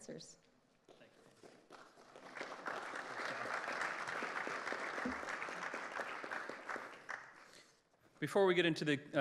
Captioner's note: applause